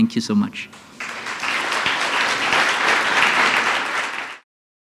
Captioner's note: applause